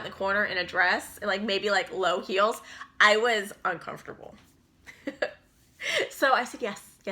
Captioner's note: chuckles